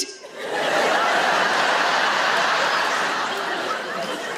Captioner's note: audience laughs